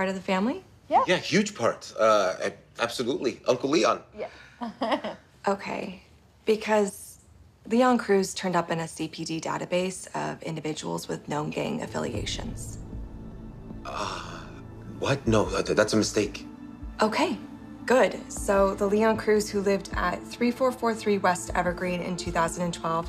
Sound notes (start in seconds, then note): 4.6 chuckles